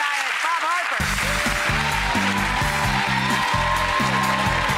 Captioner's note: audience cheering